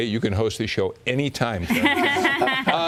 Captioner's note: laughter